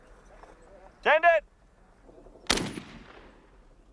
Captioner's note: voiceover